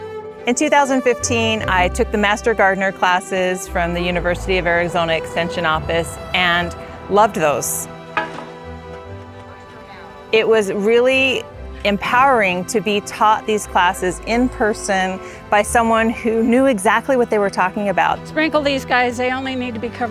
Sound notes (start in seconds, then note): 7.8 metal clanks